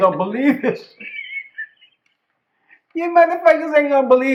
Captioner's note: laughter